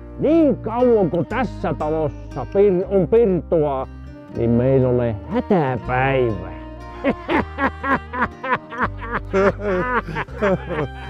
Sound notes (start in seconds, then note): 6.8 Herman laughs; 9.0 Herman and Johan laugh